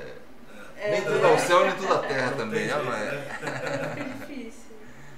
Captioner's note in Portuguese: risos